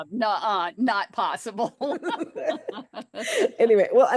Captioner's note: laughter